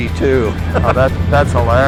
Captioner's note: laughs